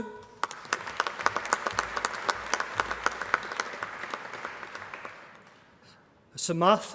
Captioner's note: applause